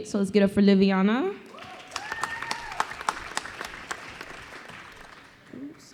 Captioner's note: applause